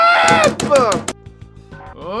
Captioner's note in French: Boum boum boum boum boum